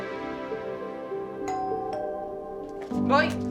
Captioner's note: doorbell